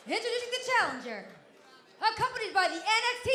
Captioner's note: crowd cheering